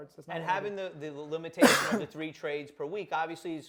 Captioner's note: coughs